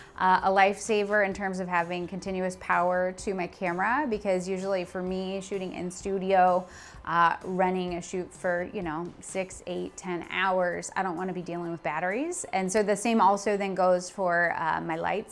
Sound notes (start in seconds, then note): none